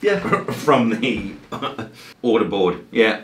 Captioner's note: chuckles